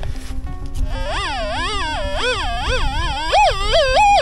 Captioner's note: squeaking